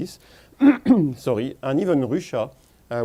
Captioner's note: clears throat